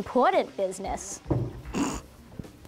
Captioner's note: sniggers